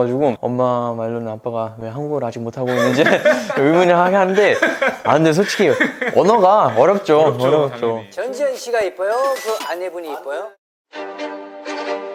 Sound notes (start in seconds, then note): 2.6 laughing